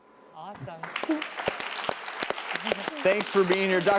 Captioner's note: clapping